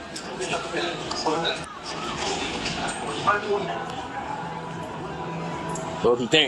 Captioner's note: background club noise